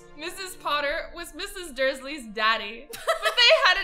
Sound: laughs

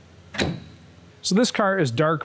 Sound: hood clicks closed

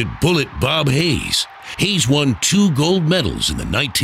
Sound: crowd noise

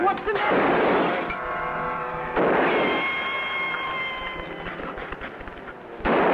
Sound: guns fire

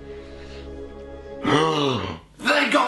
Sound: gasp

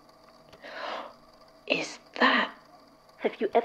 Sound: catching his breath

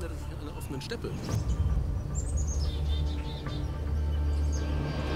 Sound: birds chirping; intense music

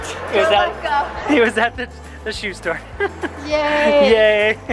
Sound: laughs

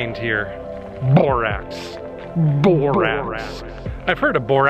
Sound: echoes

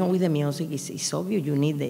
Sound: speaking in a foreign language

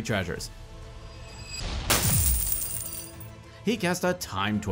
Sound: coins shattering

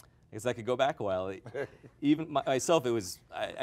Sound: laughs

